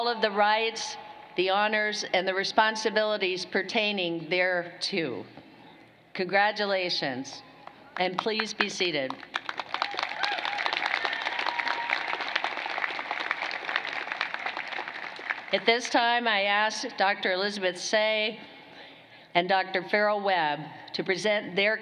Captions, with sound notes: SCIENCES, AND, MASTER OF SCIENCE IN HUMAN NUTRITION. WITH ALL OF THE RIGHTS, THE HONORS AND RESPONSIBILITIES PERTAINING THERETO. CONGRATULATIONS CONGRATULATIONS. AND, PLEASE BE SEATED. [CHEERING AND APPLAUSE]